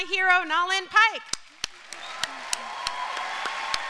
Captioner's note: applause